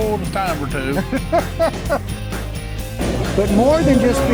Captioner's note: laughs